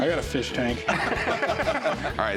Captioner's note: laughter